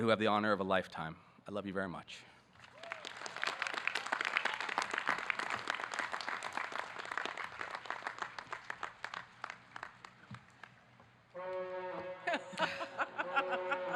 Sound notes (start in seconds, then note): 2.6 audience clapping